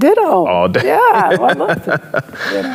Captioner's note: laughing